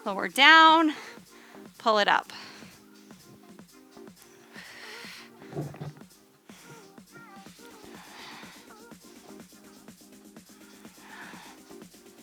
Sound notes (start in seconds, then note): 3.8 upbeat music; 4.6 panting